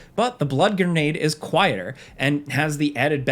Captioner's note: none